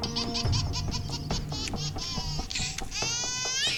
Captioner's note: baby laughing